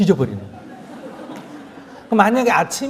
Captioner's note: audience Laughter